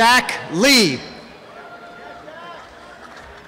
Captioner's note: cheering and applause